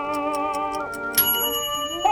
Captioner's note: timer ticking sound over music; toaster oven ding